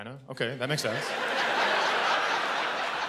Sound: laughter

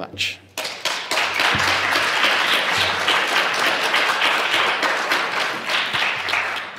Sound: applause

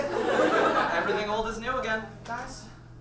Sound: audience laughs

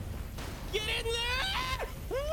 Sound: screaming

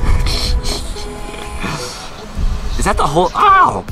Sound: laughs

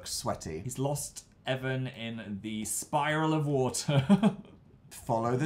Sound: laughs

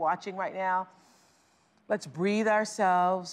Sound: inhales deeply

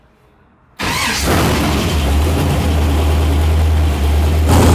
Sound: motor revving

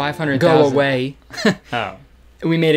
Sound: laughs

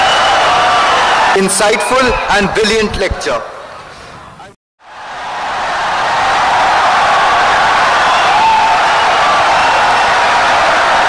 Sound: wild applause and cheering for 17 seconds

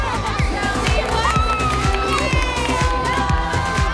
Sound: cheers

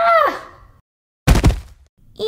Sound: thud!

